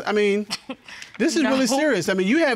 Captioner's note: scoffs